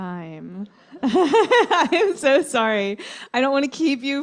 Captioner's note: laughter